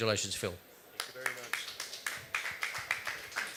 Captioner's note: applause